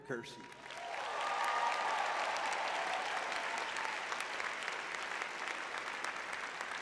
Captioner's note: audience cheering